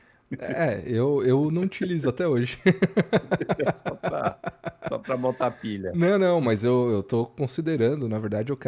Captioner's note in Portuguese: risadas